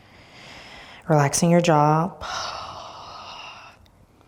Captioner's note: breathing deeply